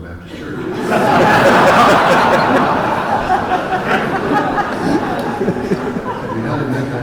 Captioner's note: laughter